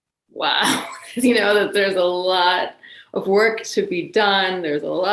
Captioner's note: laughs